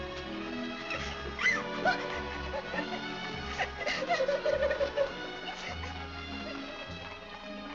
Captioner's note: Annie crying